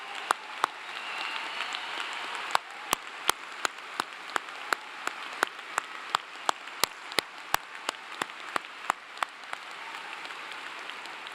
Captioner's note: applause